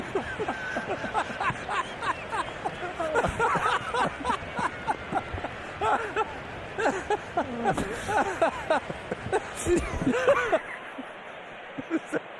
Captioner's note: laughter